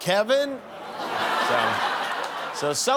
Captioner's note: laughter